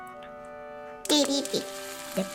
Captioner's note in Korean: 치릭! / 지글지글